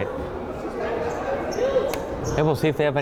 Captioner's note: crowd chattering